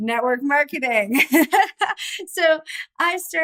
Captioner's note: laughs